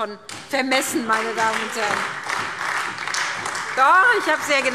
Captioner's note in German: Beifall SPD, AfD und Freie Demokraten – Zuruf: Sie haben nicht zugehört!